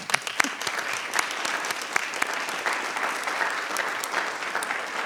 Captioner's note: audience applauding